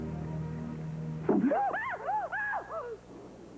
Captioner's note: Josh gasps then Reva jumps